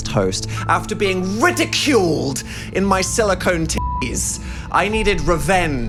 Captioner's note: beep